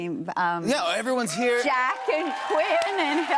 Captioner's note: cheers and applause